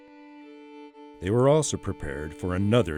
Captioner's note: voiceover